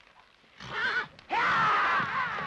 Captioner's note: birds chirp; horse grunts; horse grunts & hooves pound